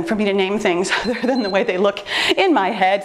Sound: timer beeps

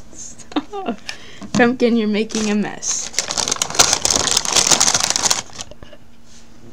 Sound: laughing; bag crinkling

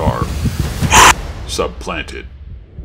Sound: snarls

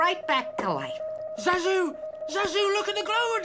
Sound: electronic sounds

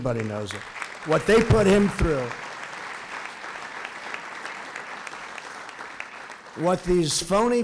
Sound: applause

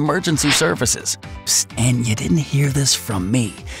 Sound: whispers

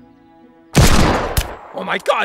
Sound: bullet bursts

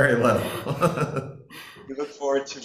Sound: speakers laughing

